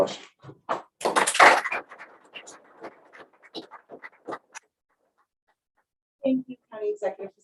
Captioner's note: applause